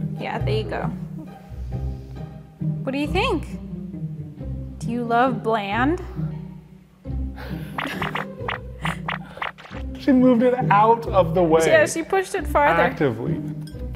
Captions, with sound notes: Yeah, there you go. What do you think? Do you love bland? (video game booping) She moved it out of the way. Yeah, she pushed it farther. Actively.